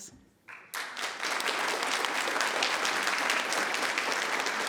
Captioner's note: members clapping